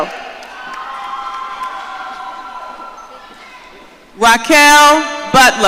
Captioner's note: audience cheering